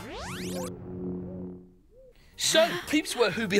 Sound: poofs

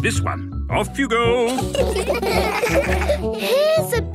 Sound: laughter

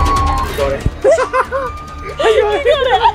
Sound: laughs

